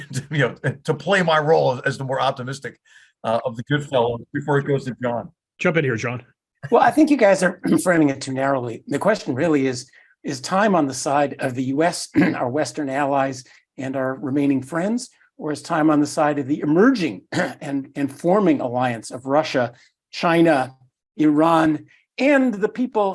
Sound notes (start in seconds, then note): 6.8 laugh; 7.6 cough; 12.1 cough; 17.3 cough